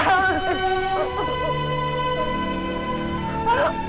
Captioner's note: sobbing